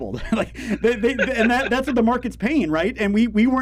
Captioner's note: laugh